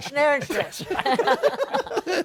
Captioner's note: laughter